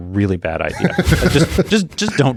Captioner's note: laughs